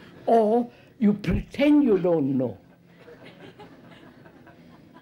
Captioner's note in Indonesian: Tertawa